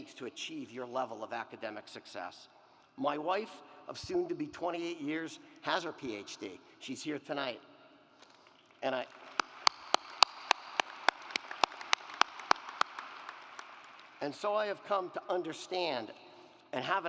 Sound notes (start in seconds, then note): 8.9 claps